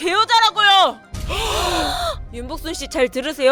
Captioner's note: gasp